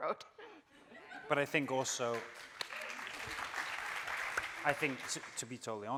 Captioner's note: audience cheering